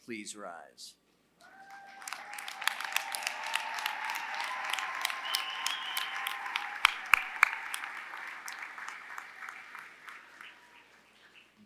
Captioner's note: applause